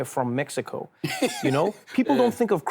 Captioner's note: laughs